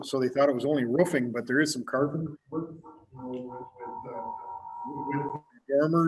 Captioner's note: computer echoing